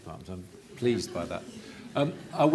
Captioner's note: audience laughter